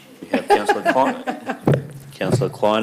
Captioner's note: laughs